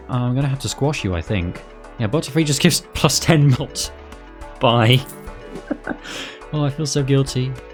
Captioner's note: chuckle